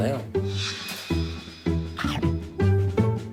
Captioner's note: blowing